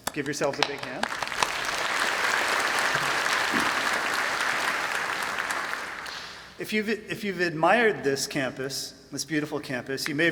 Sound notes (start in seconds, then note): 0.0 applause